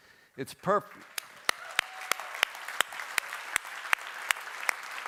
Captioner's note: applause